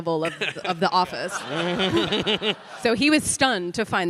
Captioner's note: all laughing